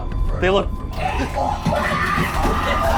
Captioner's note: shrieking, clattering